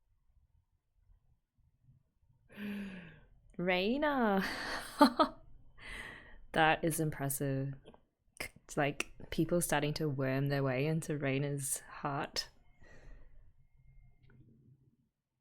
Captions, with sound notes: [inhales] Reina! [laughs] That is impressive. It's like people starting to worm their way into Reina's heart.